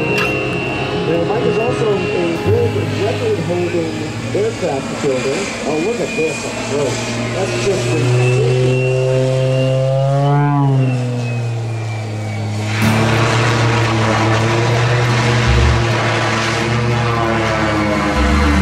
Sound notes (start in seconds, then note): 4.9 engine powering down